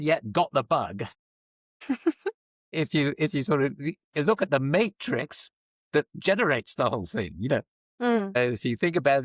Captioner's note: laughter